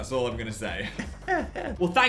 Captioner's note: Dan laughs